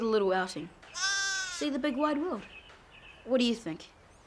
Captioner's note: lamb bleats